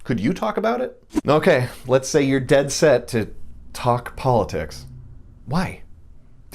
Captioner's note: shudder